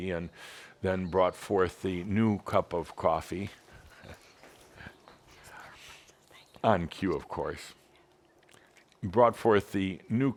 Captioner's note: Adamus chuckles